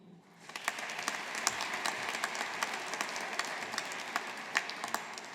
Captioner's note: audience applauding